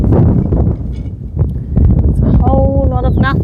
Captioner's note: wind